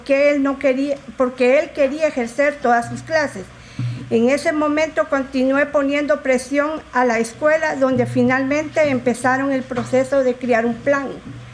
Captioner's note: speaking in spanish